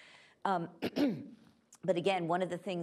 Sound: coughs

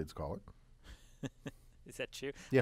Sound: laugh

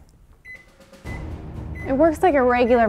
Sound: beeping

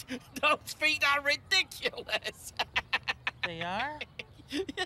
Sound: laughs; laughs

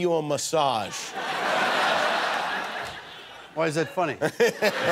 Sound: laughter

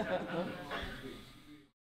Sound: laugh

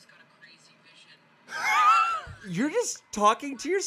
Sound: laughs

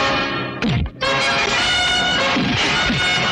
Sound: thwacking

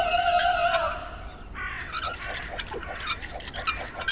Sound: crows cawing

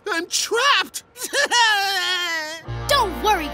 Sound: crying

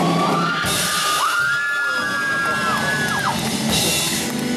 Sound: drum Solo; applause

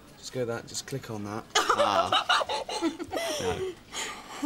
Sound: laughs

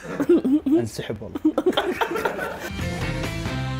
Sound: all laughing

